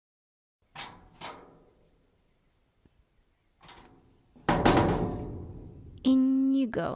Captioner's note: metal door opening and closing